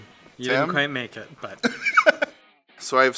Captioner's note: laughs